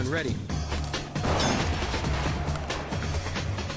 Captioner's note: breaching shotgun fires